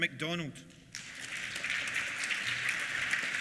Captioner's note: applause